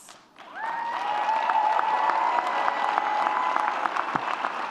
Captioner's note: audience cheers